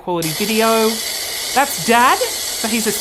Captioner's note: static